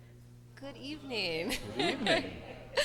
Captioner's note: laughs